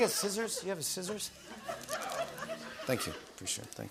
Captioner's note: laughter